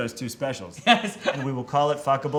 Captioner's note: Tan laughs